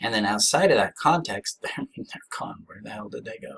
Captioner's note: scoffs